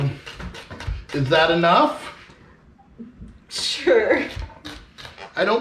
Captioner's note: giggling